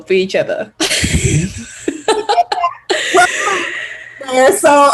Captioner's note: they laugh